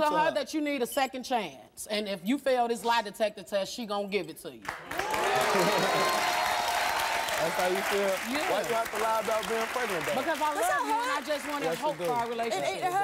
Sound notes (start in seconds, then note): 4.7 audience cheering and applause